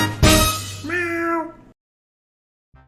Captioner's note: meow!